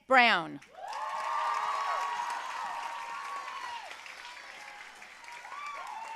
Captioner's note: audience cheering and applauding